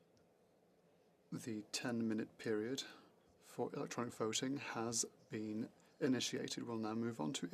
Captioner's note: speaking French